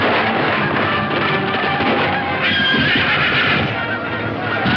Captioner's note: horse neighs; dramatic music